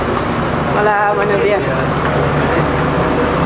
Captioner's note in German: auf Spanisch